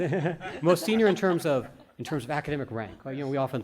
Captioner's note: group laughter